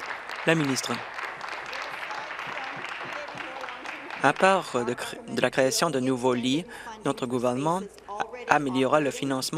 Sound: applause

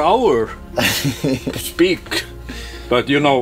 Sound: laughs

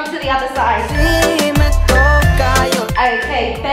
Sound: beeping

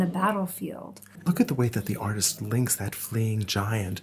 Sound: voiceover

